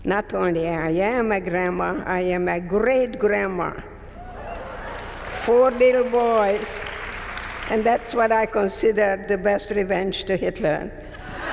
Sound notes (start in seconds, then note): 4.2 audience members cheering; 4.3 audience members clapping; 11.1 audience members laughing